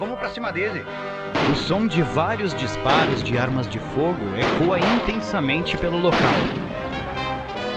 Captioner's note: gunshots